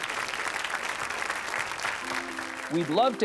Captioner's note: audience applauding; lively music